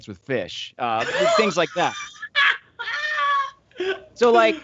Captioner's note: laughing